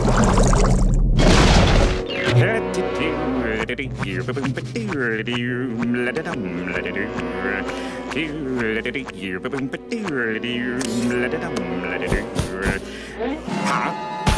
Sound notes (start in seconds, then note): 0.8 thundering; 1.9 humming